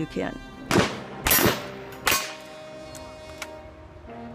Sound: gun fires

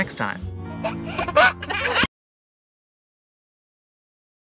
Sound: giggles

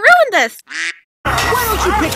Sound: quack

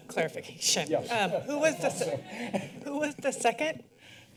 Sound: laughter

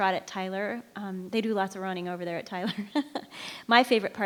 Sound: chuckles

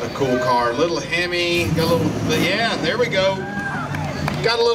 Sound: engine rev

